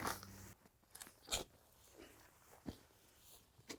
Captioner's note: shovel digging